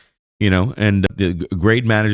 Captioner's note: uh